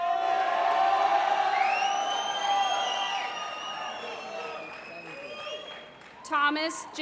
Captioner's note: applause